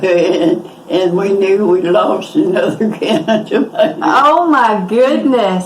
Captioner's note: laughing